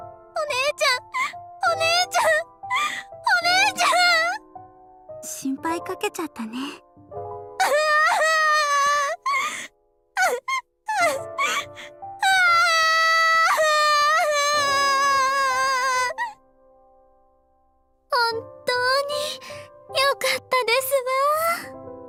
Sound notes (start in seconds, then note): 10.2 sob; 10.8 more sobs; 17.2 silence